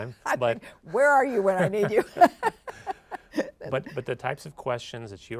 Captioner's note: laughs